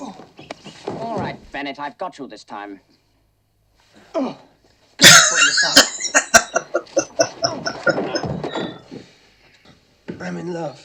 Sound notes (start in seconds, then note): 5.0 laughing